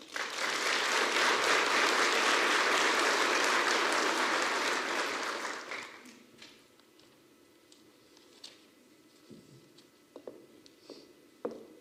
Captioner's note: applause